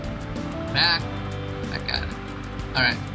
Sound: on the radio

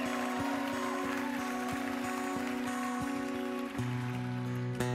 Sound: cheering, applause

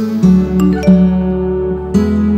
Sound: phone ringing

